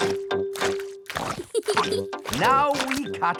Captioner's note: peppa giggles